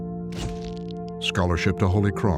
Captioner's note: shutter clicks